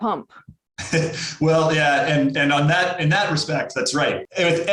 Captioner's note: chuckles